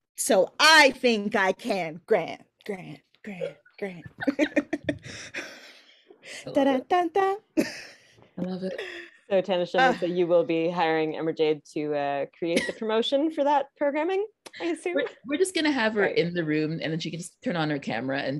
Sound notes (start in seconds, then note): 4.0 all laughing; 7.4 laughing